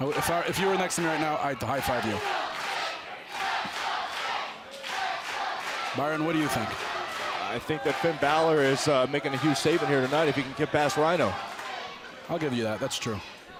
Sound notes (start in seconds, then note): 4.7 fans chanting